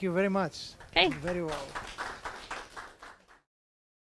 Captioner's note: audience applause